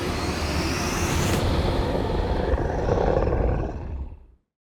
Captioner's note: growling